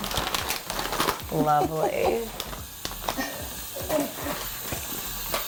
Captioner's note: laughs